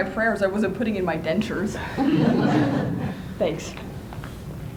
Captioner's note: laughter